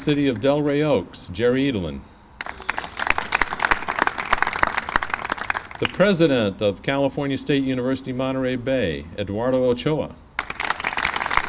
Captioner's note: clapping; clapping